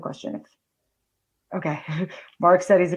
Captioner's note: laughs